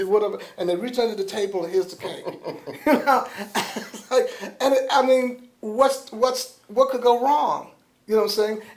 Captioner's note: laughter